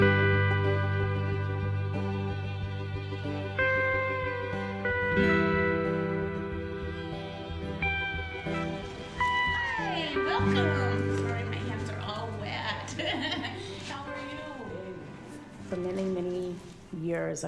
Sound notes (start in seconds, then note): 12.4 chuckles; 12.6 笑声